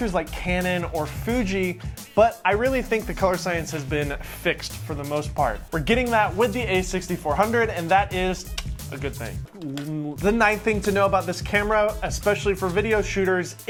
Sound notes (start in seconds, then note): 9.5 groans; 9.5 clicks tongue